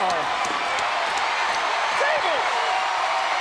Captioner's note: crowd cheering